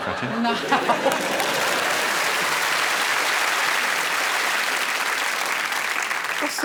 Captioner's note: laughs